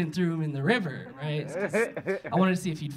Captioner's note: audience laughing